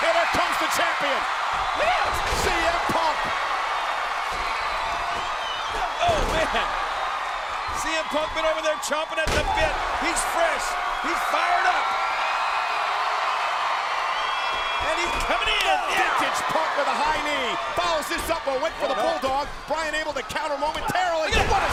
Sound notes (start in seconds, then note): 12.4 crowd cheers